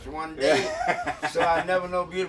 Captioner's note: laughing